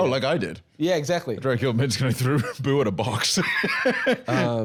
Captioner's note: laughs